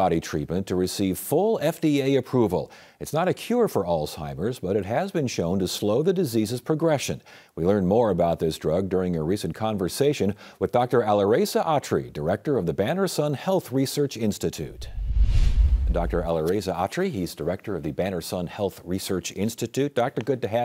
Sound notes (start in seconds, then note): 14.6 logo whooshing